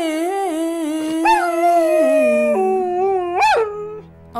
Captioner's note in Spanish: Perro aullando